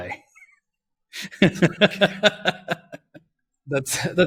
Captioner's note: both laugh